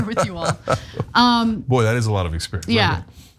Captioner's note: laugh